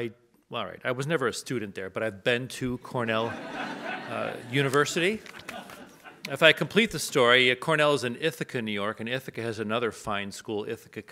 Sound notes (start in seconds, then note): 3.2 audience laughs